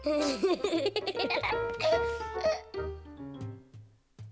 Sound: giggling

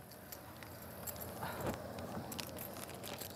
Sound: keys jingling

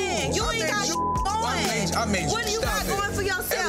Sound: beep

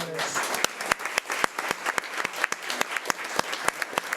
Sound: audience clapping

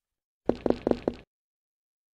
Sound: footsteps

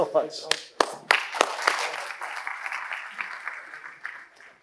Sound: audience applauding

